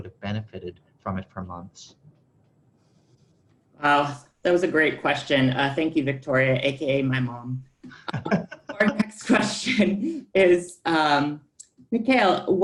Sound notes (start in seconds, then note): 8.0 laughter